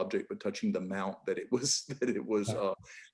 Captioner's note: laughing